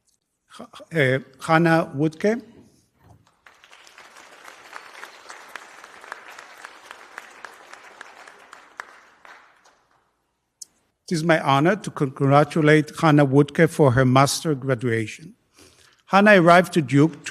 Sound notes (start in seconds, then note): 3.2 applause